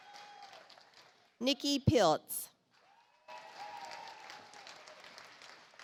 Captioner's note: audience applauds